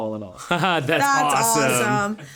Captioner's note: laughing